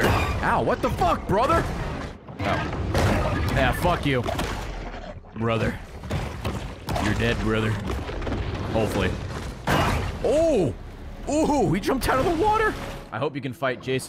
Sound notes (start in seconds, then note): none